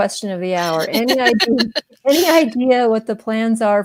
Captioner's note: laughs